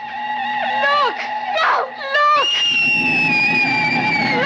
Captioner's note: miles screams